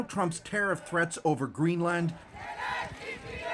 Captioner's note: chanting